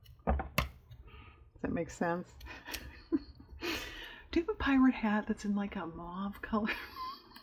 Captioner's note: laughs